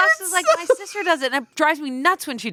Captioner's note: laughs